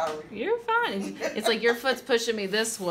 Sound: laughs

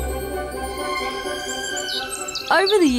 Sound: bird tweets

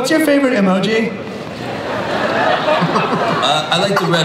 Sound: audience laughs

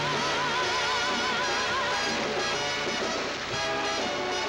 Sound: applause

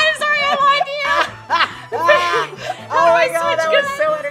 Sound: laughter

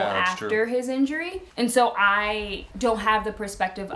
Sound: none

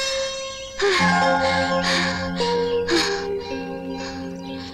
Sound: panting

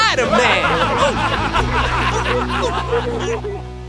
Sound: all laughing

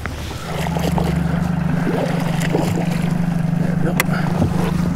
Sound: boat motor hums; water splashes

